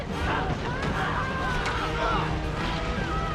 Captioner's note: people screaming in pain as plays in the background